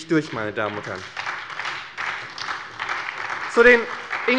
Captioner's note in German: Beifall bei der SPD